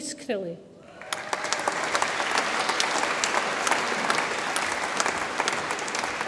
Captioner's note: audience applauds and cheers